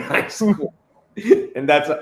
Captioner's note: chuckles